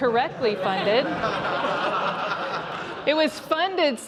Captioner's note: laughter